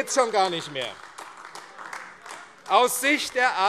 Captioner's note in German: Heiterkeit und Beifall AfD - Zurufe